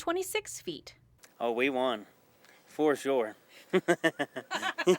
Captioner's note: laugh